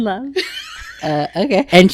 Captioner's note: laughing